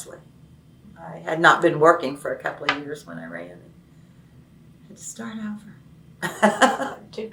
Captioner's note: laughs